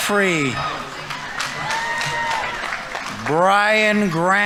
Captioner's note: audience members cheering; audience applauding